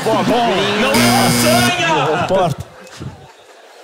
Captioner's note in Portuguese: campainha